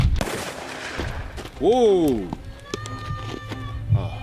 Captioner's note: gunshot